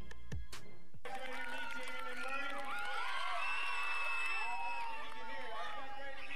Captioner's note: audience applauds and cheers